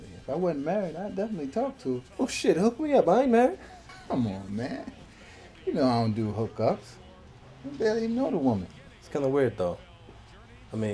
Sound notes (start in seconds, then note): 3.8 Marcus laughs